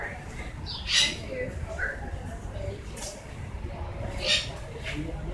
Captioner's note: a bird screeches